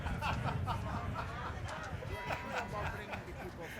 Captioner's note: man laughing; speaking off mic